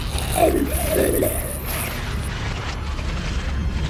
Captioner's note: cracking